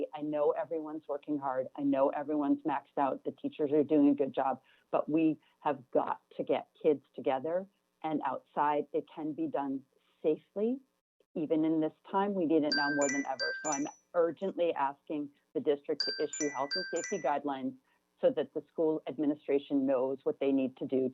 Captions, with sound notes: We're not ready. I know everyone's working hard. I know everyone's maxed out. The teachers are doing a good job. But we have got to get kids together and outside. It can be done safely. Even in this time we [chime] need it now more than ever so I'm urgently asking the district to issue health and safety guidelines so that the school administration knows what they need to do